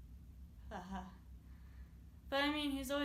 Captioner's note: laughs